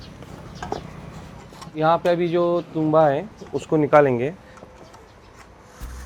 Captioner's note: speaking foreign language